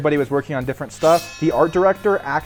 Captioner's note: effect clangs